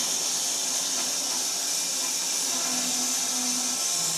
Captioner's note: saw whirring